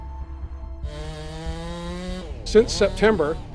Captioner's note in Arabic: طنين المنشار